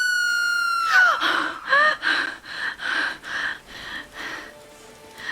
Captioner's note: Amy screaming; Kayleigh gasps